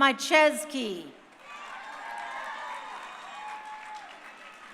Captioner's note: crowd cheering